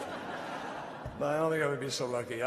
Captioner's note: laughter